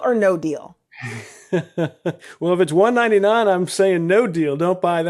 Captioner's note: laughs